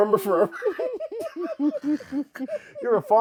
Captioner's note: laughing